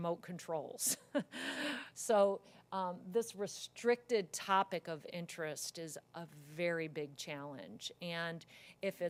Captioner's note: laugh